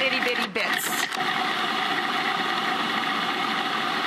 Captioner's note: grinding